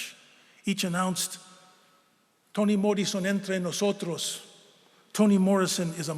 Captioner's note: speaking spanish